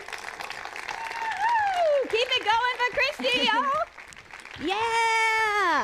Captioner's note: applause